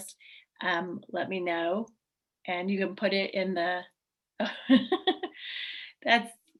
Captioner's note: laughs